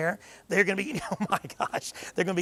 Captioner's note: chuckles